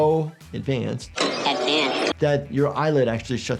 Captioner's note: static crackling